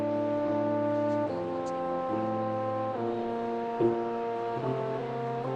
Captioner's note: everyone speaking faintly